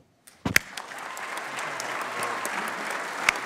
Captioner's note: applause